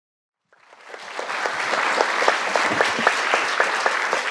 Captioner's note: audience applauding